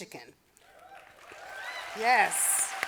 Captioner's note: audience applauding